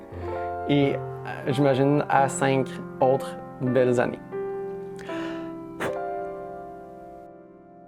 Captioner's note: breathes